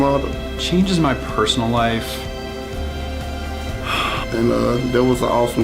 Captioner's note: exasperated sigh